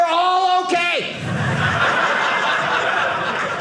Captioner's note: audience laughing